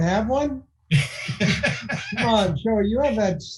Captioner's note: laughing